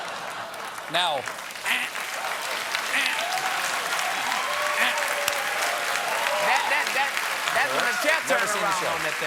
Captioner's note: cheers and applause